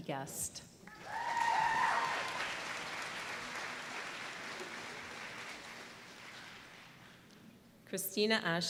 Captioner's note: applause